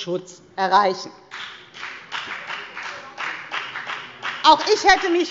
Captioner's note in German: Beifall bei der FDP